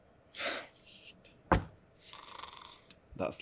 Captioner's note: whispers